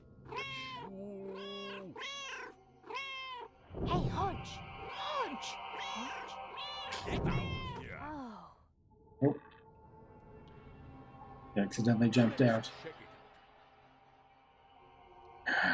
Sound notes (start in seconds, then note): 0.2 Hodge meowing; 2.8 Hodge meows; 5.6 Hodge meowing; 10.5 Kit groans; 15.4 sighs